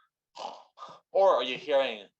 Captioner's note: snoring sounds